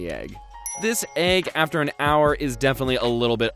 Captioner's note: dings